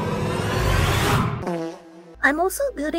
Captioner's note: echo fart sound